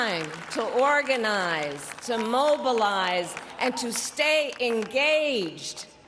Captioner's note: applause